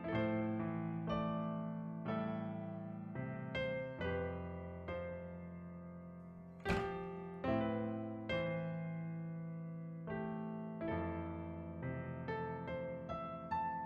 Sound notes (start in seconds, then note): none